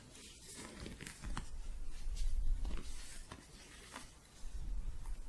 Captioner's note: soft scratching